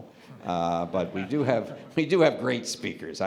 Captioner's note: laughter